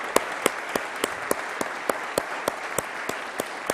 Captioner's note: applause